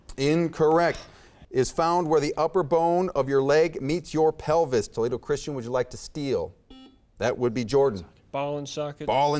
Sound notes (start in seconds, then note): 6.7 buzzer beeps